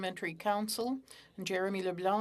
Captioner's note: speaking French